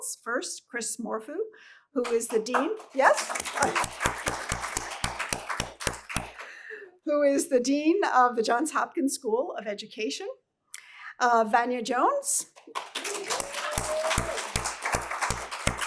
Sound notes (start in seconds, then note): 2.0 applause; 12.5 applause